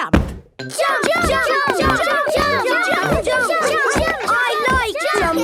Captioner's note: all shouting "Jump! Jump!"